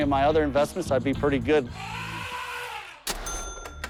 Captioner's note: elephant trumpeting; cash register chiming